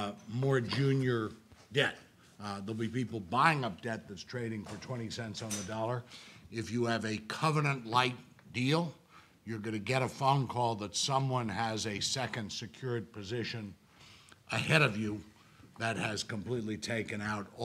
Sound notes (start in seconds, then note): none